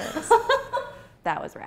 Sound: laughs

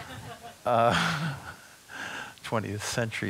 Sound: audience chuckling

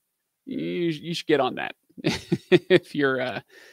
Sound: laughing

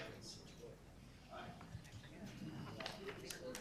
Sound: group chatter

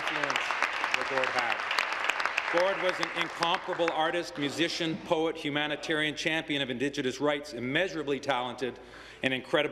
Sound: applause

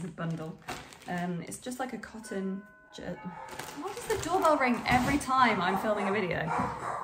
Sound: doorbell rings

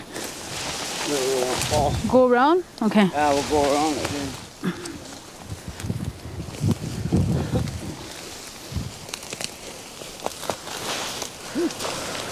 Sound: branches rustling

